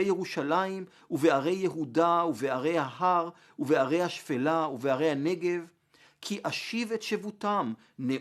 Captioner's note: Hebrew